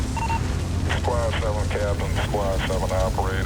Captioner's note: man, on radio